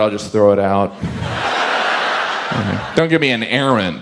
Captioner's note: audience laughs